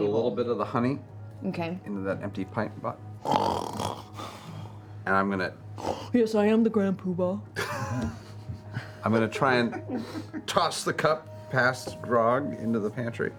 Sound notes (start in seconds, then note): 3.2 snores